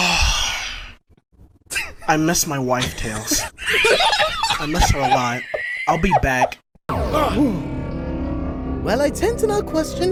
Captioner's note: sigh